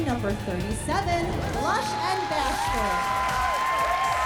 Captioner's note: applause, cheering